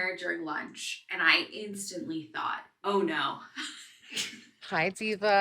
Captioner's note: laughs